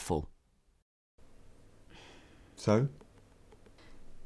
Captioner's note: sigh